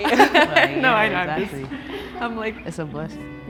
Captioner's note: contestants murmuring agreeingly